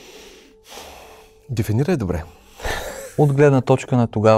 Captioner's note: laughter